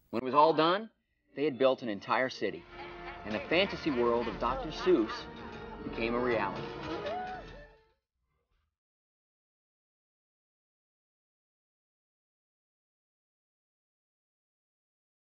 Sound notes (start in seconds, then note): 8.4 silent